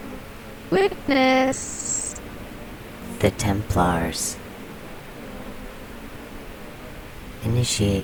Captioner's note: the Buzzing Voices; female voice, mezo-soprano; the Buzzing Voices